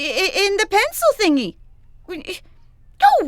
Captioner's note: stammers